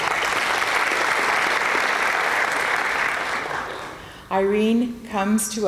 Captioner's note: applause